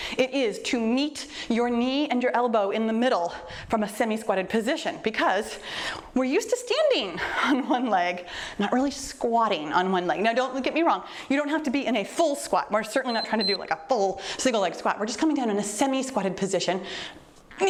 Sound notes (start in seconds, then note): 13.0 timer beeps